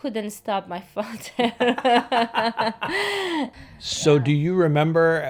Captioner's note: both laugh